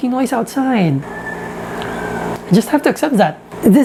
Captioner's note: chicken clucks